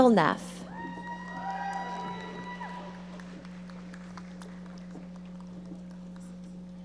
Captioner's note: audience cheering and applauding